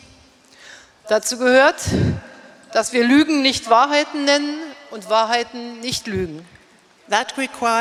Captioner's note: speaking in German